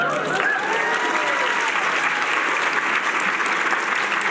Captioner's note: cheering